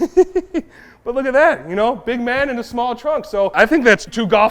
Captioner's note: giggles